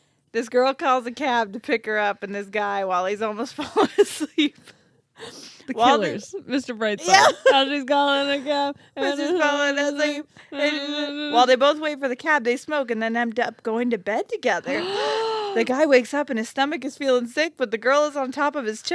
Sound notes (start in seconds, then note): 10.5 humming; 14.6 gasping